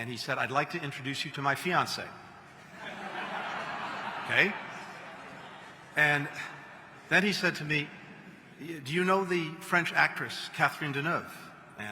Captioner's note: laughter